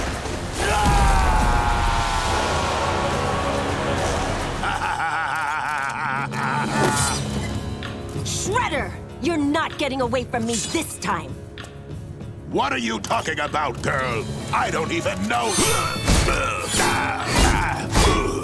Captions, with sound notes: [screaming] [laughing] Shredder, you're not getting away from me this time. What are you talking about, girl? I don't even know- [grunting]